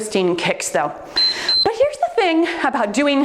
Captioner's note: timer beeps